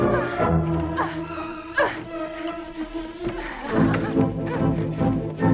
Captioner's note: Hundra grunting